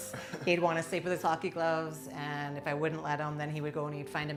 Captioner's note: laughter